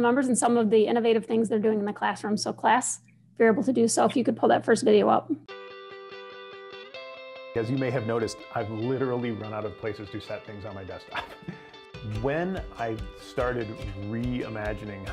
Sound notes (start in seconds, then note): 11.0 chuckling